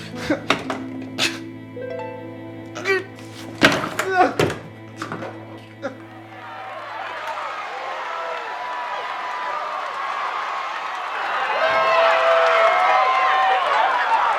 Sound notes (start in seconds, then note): 0.1 Curtis groans; 0.1 trophy thuds; 3.3 trophy thudding; 4.1 Curtis crying; 5.8 group cheering